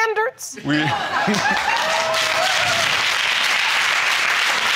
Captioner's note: audience applauding